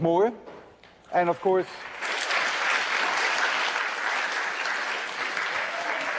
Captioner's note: applause